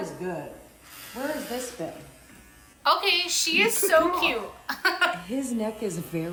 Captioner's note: laughs